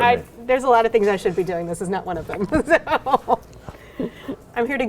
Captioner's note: laughs